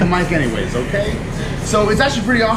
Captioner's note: laughing